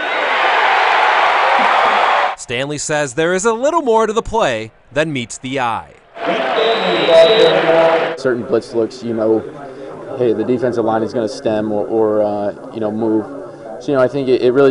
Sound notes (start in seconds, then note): 9.0 crowd